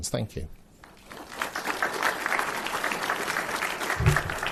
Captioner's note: applause